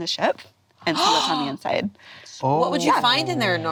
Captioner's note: gasp